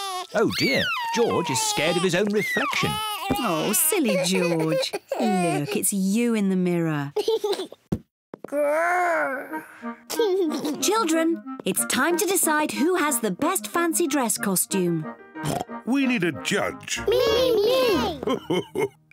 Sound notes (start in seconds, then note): 7.2 giggles; 15.4 oinks; 17.0 laughs